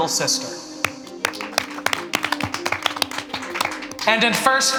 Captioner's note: everyone applauding